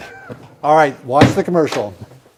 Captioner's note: laughs